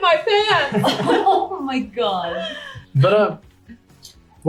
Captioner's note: all laugh